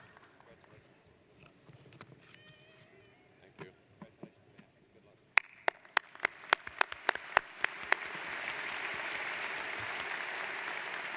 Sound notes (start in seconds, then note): 5.4 audience applauds